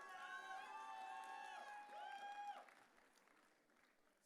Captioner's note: audience cheering